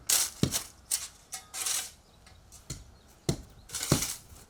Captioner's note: shovel scraping